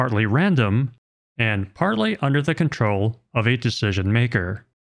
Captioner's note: none